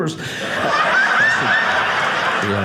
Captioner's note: audience laughing